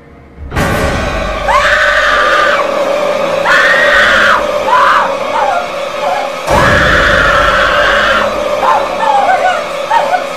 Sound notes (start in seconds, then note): 0.0 dramatic music; 0.6 Janet screams